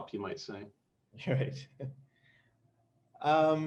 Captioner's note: laughs